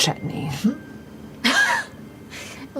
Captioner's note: laughter